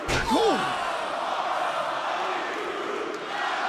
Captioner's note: crowd cheering